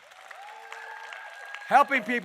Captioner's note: applause